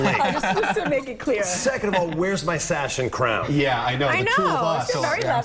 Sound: laughter

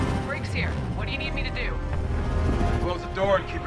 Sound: radio

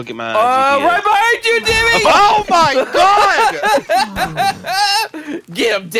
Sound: hysterical laughter

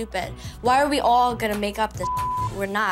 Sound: beep

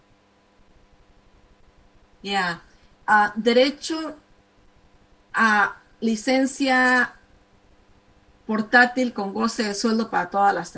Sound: speaking spanish

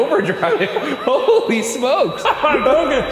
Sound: laughing

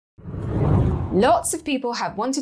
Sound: air whooshes

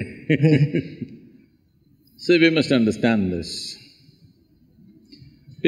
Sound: laughs

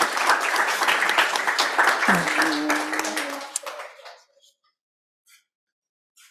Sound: applause

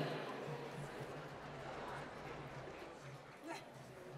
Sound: applause

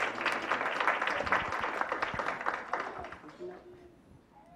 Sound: clapping

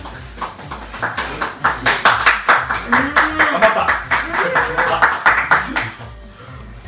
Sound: clapping hands

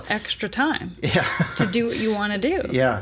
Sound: laughs

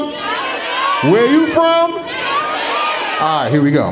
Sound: audience shouting

